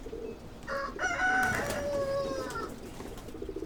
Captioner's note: pigeons cooing; rooster crowing